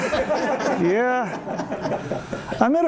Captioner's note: laughter